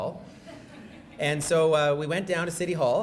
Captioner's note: audience laughing